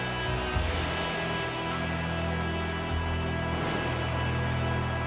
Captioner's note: lightning crashing